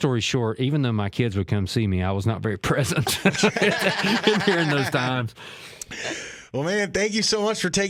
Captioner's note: laughs